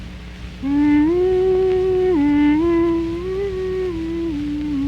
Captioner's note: somber humming